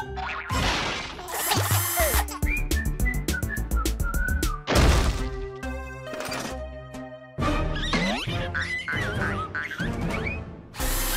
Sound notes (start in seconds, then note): 1.9 giggling; 7.7 joyful squealing